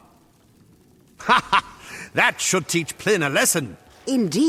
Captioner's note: laugh